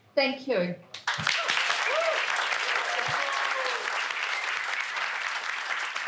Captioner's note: people applauding and clapping